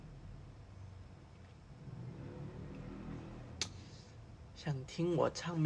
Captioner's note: motorcycle noises